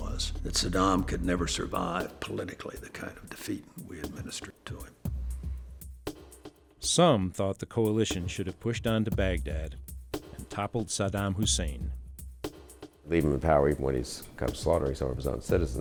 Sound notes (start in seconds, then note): 6.7 voiceover